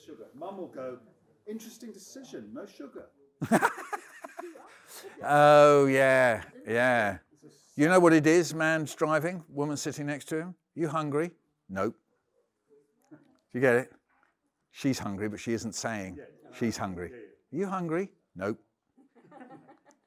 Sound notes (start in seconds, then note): 3.4 Michael laughs